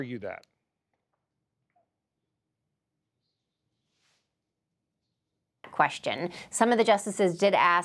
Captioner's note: audio gap